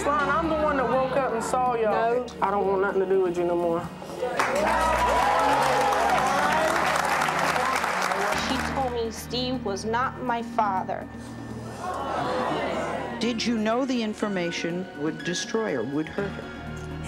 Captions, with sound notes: I'm the one that woke up and saw y'all. I don't want nothing to do with you know more. (applause) - She told me Steve was not my father. (audience clamors) - Did you know the information would destroy her, would hurt her?